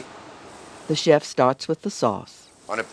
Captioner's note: voiceover